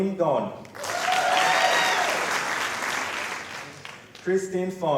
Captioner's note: applause